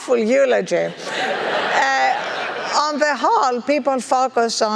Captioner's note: laugh